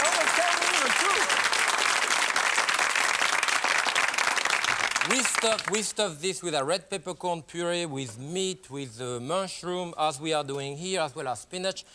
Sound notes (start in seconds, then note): 2.8 applause